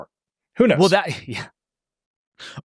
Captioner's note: laughs